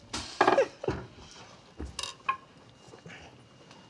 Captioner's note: Dory chuckles